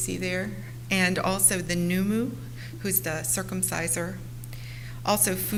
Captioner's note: foreign language